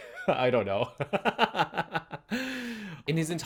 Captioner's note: nervous laughter